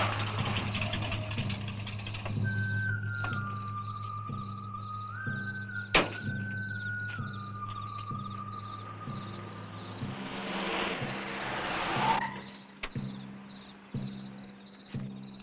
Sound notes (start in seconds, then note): 2.9 crickets chirping; 2.9 eerie music